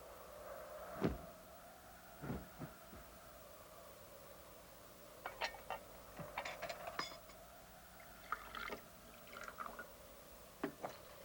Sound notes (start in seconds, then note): 5.2 dishes clatter softly